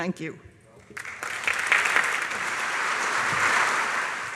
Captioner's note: applause